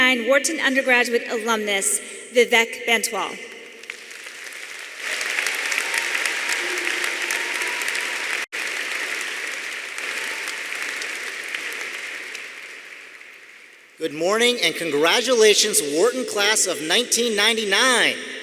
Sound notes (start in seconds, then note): 3.7 audience applauding; 3.7 audience cheering